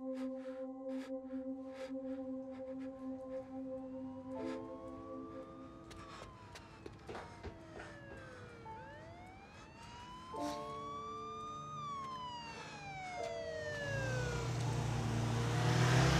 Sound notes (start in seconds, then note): 3.4 distant siren wails; 3.4 melancholy piano music; 12.2 engine roars